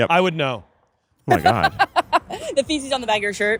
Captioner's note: laughing